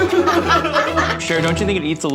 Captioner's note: crew laughs